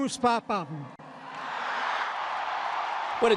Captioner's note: crowd cheering